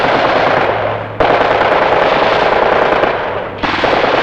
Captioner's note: guns blasting